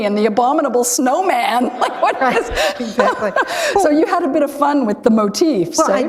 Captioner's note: chuckle